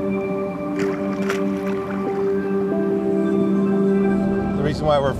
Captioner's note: water splashes